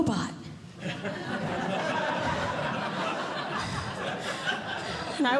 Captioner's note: audience Laughing